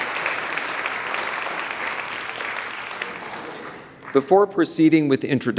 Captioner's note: audience applauds